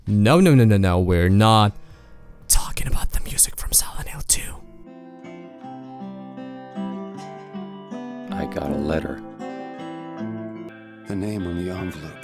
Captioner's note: whisper